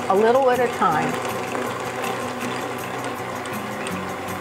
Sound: machine rumbling

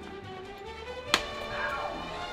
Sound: hand smacks

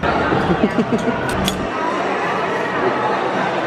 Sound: laughs

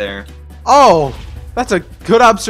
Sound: explosions

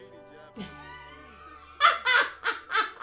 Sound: loud Laughing

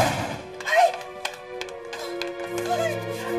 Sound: gasps

